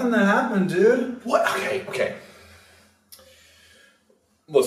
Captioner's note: breathes